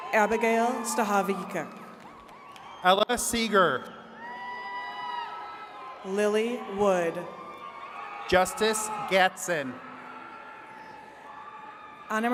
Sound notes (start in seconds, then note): 4.4 attendees cheering